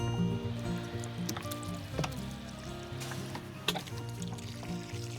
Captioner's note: water trickling